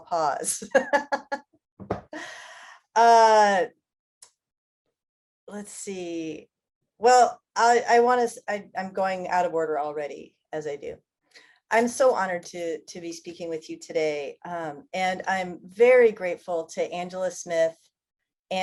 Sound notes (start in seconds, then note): 0.7 laughs